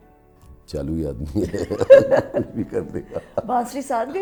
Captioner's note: laughs